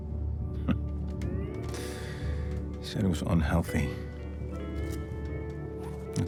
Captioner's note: laughs; slow Hawaiian music